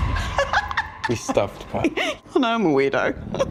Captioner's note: laughing